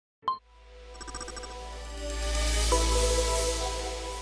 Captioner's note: soft electronic whooshing